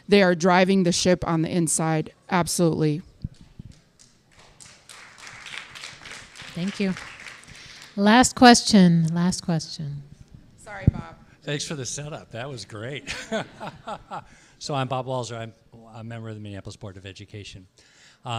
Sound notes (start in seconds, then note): 4.2 applause; 13.0 laughs